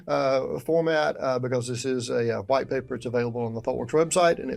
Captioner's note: chuckles